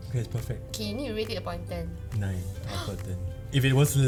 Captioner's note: gasps